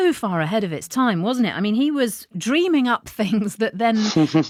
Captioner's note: chuckles